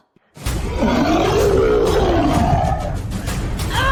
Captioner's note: monster Roar